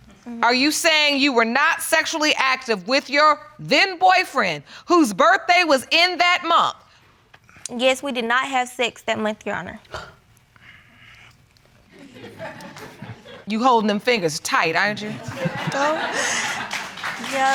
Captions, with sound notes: Are you saying you were not sexually active with your then boyfriend, whose birthday was in that month? Yes, we did not have sex that month, Your Honor. You holding them fingers tight, aren't you? No. (INHALES) (AUDIENCE LAUGHS)